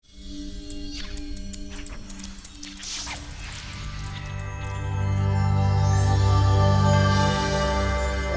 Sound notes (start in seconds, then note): 0.2 gentle music; 1.6 atmosphere swishing